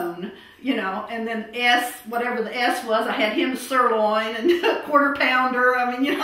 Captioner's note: laughter